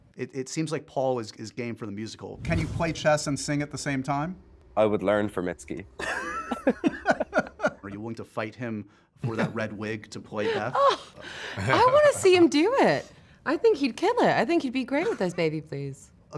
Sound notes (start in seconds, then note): 6.0 laughs